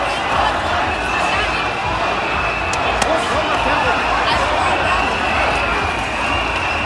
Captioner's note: Stimmengewirr